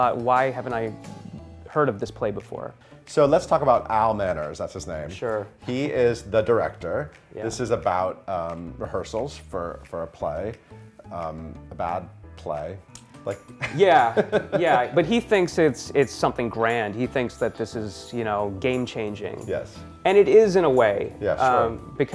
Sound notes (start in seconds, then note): 13.6 laughs